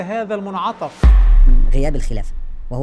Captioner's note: sound effects